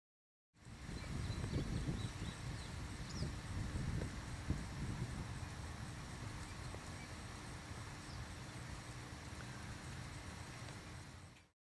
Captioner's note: sounds of nature: wind, birds chirping